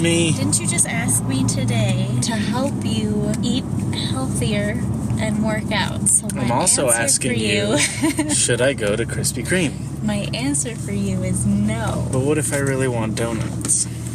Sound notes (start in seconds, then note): 7.6 laughs